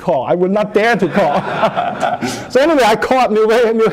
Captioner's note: laughter